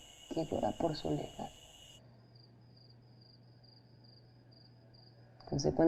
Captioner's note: crickets chirping